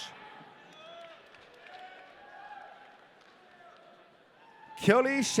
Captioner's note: audience cheering